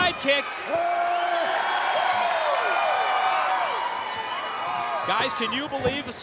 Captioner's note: crowd cheering